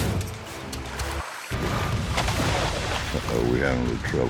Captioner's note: flashback, water splashing